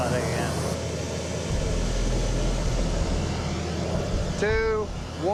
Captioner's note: burner whooshing